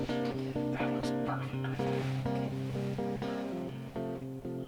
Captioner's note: whispering